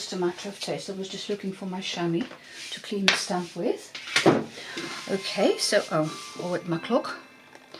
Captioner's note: clock chimes